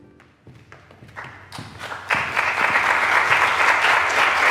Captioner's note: audience clapping